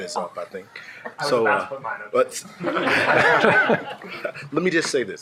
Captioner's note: shared laughing